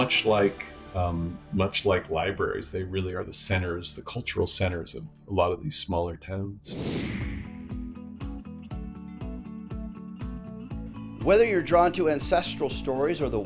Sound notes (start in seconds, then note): 6.6 screen whooshing; 6.7 chill music